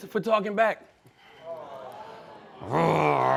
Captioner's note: crowd groans, gasps; growling